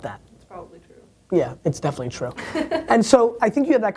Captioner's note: laughs